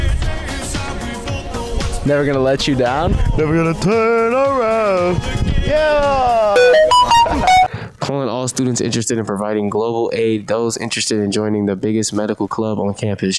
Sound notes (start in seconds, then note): 0.0 singing; 3.3 singing; 6.5 beeping sound effect